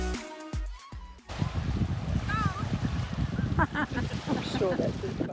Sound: giggles

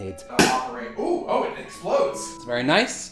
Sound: bang

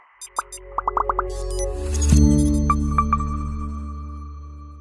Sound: digital chimes

